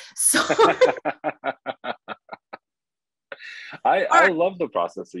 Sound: both laugh

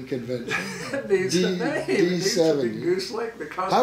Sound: laughs

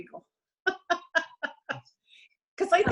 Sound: laughs

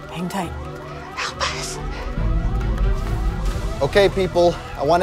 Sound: whispers

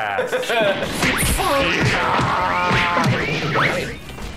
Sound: cartoon fight sound effects and battle cries from the two

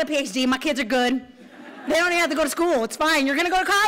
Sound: laughter

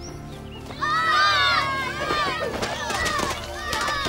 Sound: group yelling

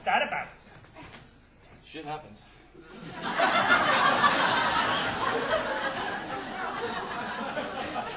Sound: audience laughing

